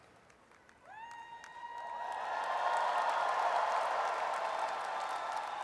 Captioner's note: audience cheers and applauds